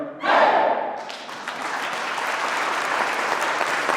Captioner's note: clapping